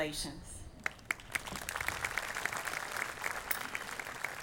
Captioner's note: audience applauding